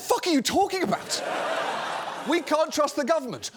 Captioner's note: audience laughing